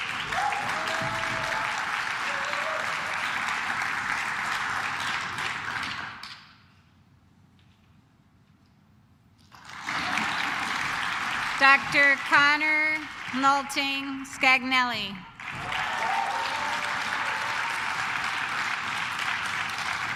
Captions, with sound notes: (claps) Dr. Connor Molting Scagnelly. (claps)